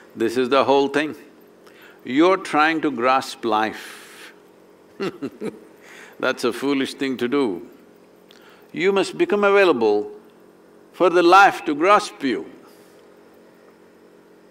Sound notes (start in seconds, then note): 5.0 laughs